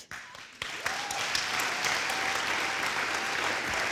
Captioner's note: audience applauds